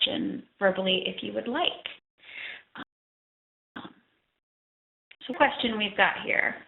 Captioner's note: audio dropping